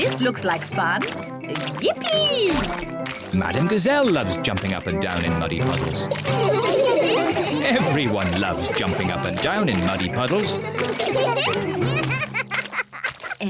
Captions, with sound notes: This looks like fun. Yippee! Madam Gazelle loves jumping up and down in muddy puddles. (ALL LAUGH) Everyone loves jumping up and down in muddy puddles. (LAUGHS)